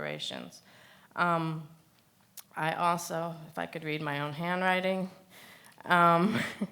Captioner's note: laughs